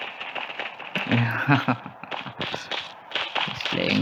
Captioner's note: laughs